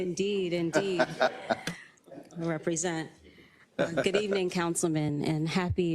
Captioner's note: laugh